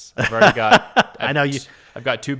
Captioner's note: laughing